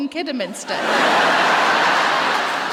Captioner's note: laughter